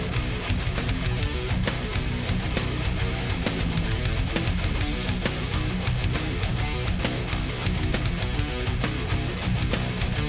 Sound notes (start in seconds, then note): none